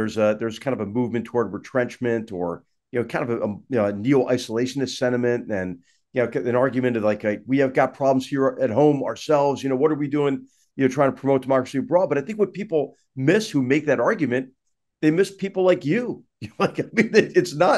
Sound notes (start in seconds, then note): 16.4 laugh